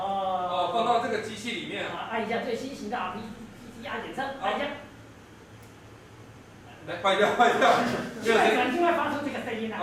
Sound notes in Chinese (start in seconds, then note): 5.2 沒聲音